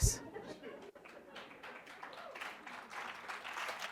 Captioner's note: applause